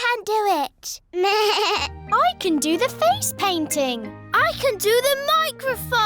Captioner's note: bleats